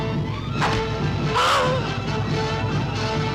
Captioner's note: arrow whooshing; man shouts; tense orchestral music